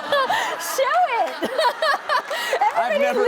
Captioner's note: laughter